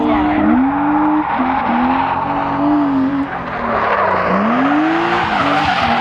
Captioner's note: tires screech; engine revs